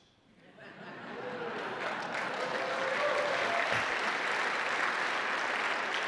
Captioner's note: attendees applause and cheering